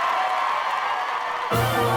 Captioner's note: applause